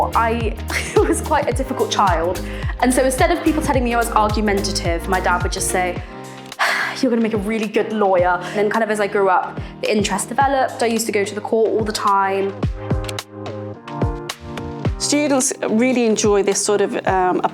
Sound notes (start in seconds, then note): 6.6 sigh